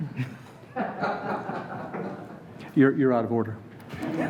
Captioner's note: laughing